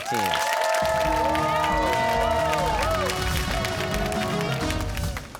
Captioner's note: cheers and applause